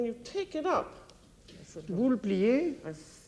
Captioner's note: speaking French